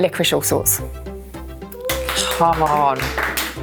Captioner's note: applause